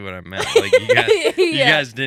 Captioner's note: laughing